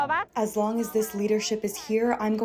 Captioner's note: through translator